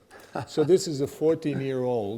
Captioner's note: laughing